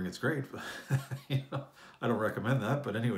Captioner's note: chuckles